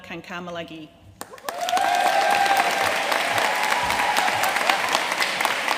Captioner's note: audience cheering and applauding